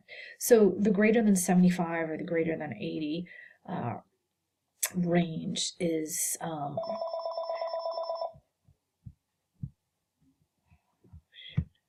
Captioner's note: phone rings